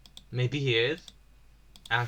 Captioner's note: more hopeful voice